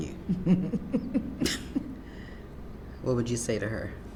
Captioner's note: laughs